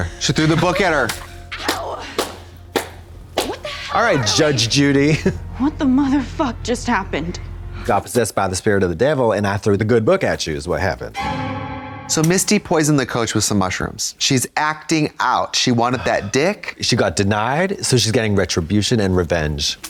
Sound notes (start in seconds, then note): 2.7 Katya slaps; 11.1 eerie tone